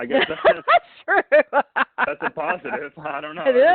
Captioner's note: laughs